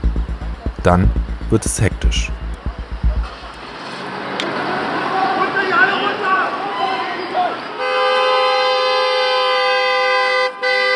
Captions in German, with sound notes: Dann wird es hektisch. Runter hier, alle runter! *lautes Autohupen*